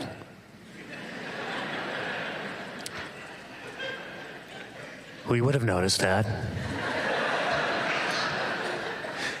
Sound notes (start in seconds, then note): 0.7 laughter; 6.6 laughter